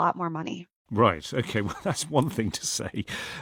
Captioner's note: laughs